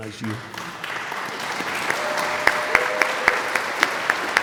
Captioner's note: audience applauds